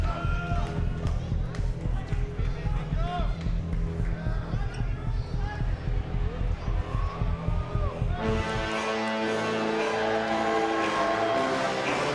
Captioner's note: audience chanting "joe"